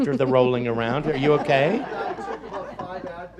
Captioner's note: audience laughs